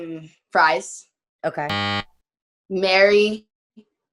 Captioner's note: buzzer tones